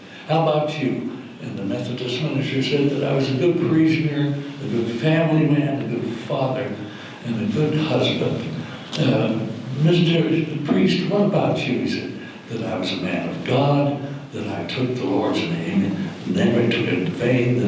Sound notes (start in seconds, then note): none